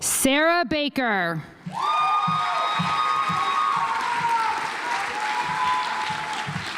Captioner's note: audience applauds